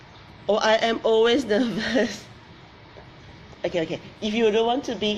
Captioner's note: laughs